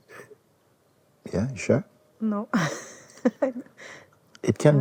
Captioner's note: laughs